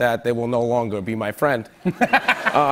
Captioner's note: laughter